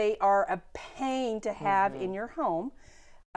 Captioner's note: laughing